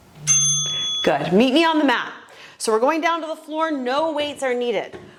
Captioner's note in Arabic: رنين الجرس